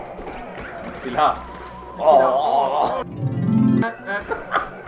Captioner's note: noises and a blasphemy